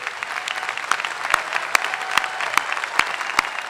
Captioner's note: applause